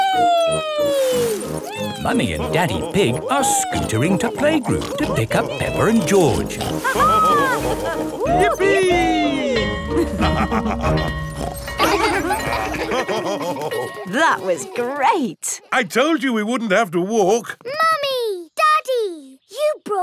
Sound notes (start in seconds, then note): 6.7 both laughing; 8.5 school bell ringing; 10.0 both laughing; 11.2 daddy pig snorts; 11.5 children laughing; 12.9 daddy pig laughing